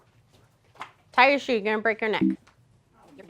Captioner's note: error sound